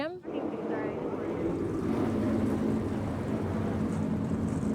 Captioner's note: car engines rev